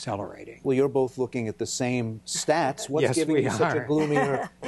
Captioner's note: laughter